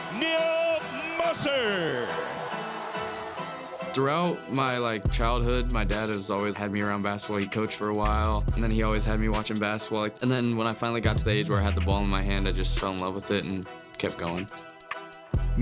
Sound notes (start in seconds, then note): 3.0 crowd cheering